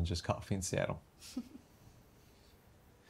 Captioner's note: chuckles